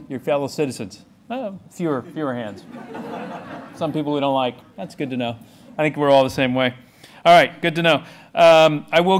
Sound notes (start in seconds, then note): 2.0 laughing